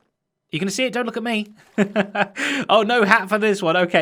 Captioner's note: chuckles